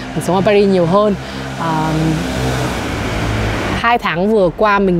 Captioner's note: motorbike engine sound